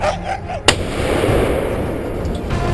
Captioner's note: gunshot